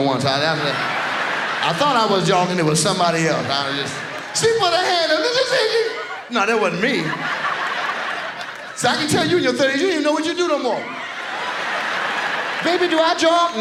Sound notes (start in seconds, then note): 10.9 audience laughs